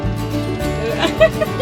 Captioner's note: laughing